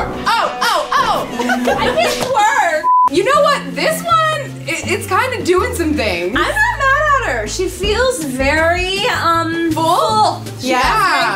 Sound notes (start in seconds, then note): 0.6 giggling; 2.8 beeps